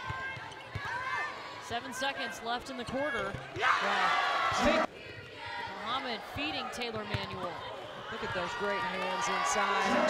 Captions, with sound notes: Seven seconds left in the quarter. (crowd cheering) Muhammad feeding Taylor Manuel. Look at those great hands inside.